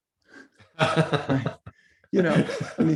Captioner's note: laughs